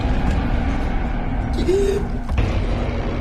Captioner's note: gasping